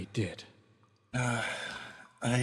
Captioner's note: Arkat Sigh